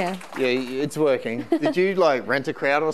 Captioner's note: laughing